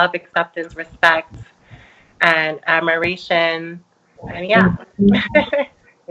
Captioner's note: laughs